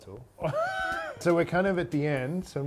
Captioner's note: laughs